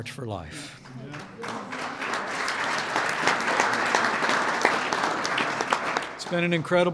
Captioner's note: applause